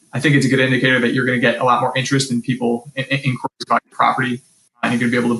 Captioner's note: mic cuts out